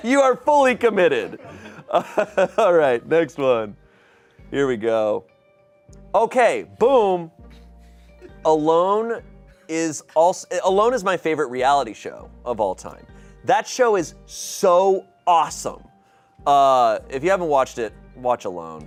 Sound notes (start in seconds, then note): 0.7 laughs